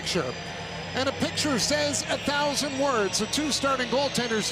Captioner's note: cheering and Applause